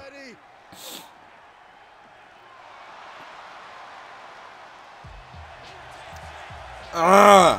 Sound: applause

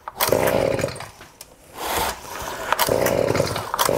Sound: engine turning over

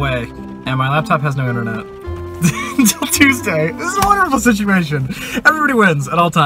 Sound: laughing

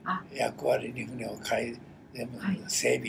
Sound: foreign language

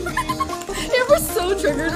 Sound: giggles

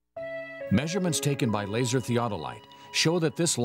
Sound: voiceover

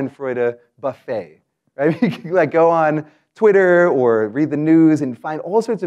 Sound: laugh

